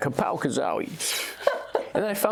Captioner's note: laughs